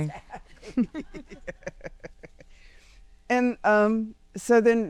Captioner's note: laughing